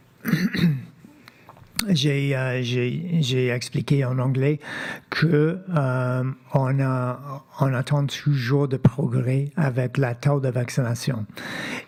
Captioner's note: speaking French